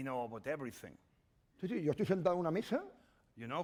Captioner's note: speaking spanish